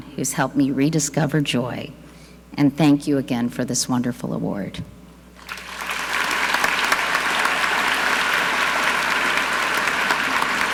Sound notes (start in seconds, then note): 5.4 audience clapping